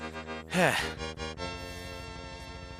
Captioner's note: sigh